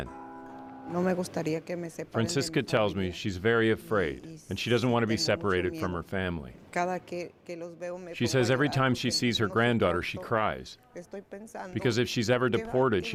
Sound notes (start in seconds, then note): 3.7 speaking spanish